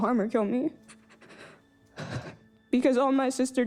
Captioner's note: breathing shakily